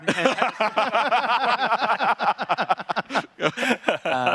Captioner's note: laughing